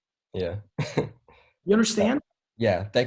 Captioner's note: chuckles